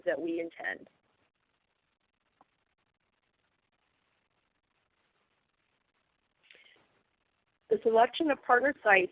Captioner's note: silence